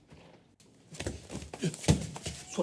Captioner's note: footsteps; punching